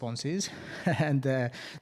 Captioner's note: laughs